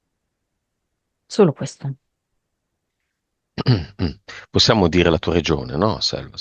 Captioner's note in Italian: schiarire la voce